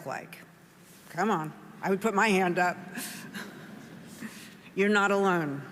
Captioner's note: chuckling